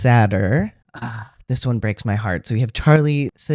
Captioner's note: sigh